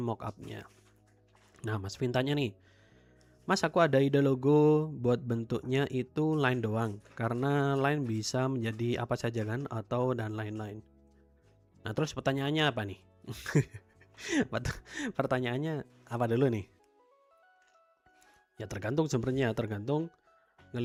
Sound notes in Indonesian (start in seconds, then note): 13.7 tertawa; 14.4 terkesiap